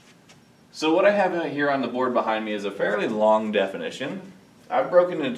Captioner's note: none